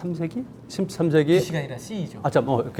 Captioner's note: speaking in Korean